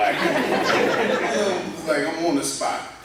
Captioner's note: laughter